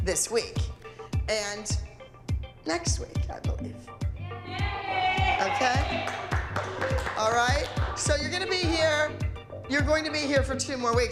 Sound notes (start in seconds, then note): 4.4 cheering and clapping